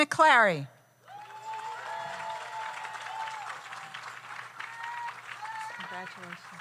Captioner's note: audience cheers; audience applauds